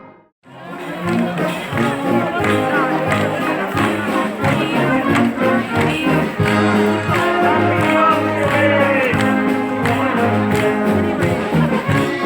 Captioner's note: noise of crowd in background and music playing